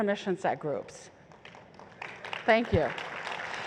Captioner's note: applause